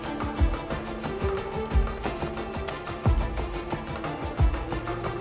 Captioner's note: keyboard clacking